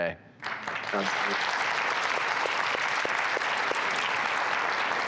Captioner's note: audience claps